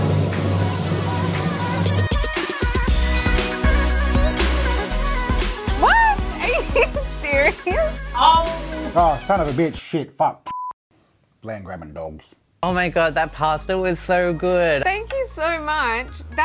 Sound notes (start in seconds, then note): 0.4 upbeat music; 10.5 beep